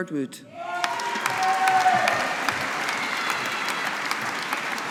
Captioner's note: audience applauding